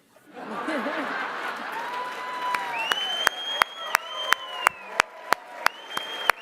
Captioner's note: laughter, applause